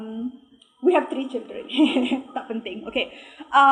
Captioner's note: laughing